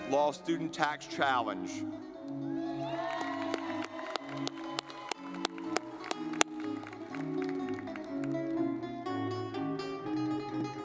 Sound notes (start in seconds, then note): 1.7 lively music; 2.8 audience clapping